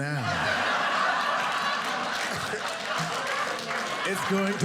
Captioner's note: audience laughing